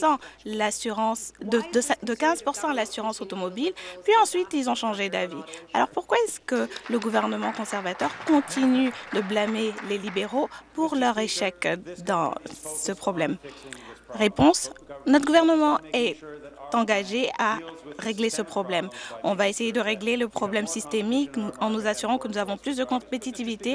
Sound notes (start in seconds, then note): 10.2 applause